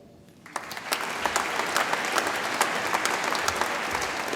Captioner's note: audience applauds